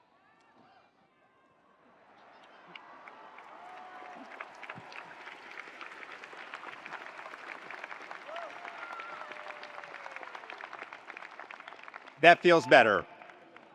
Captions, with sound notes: (attendees applauding) (attendees cheering) That feels better.